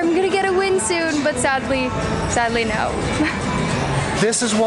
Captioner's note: laughing